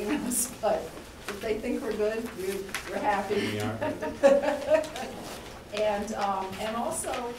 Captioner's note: laughter